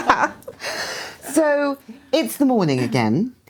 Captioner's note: laughing